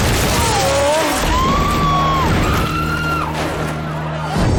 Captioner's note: spectators screaming